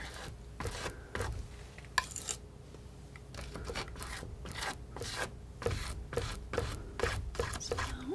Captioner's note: scratching